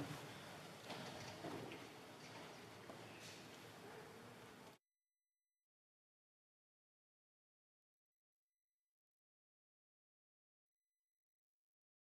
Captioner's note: moment of silence